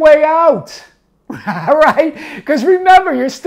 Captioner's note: laughing